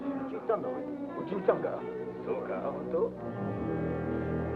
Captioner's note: soldiers speak Japanese